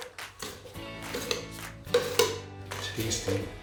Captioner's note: spoon scraping bowl